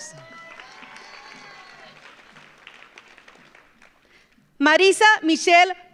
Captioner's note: audience cheers; audience applauds